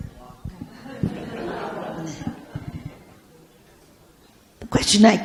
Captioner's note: audience laughs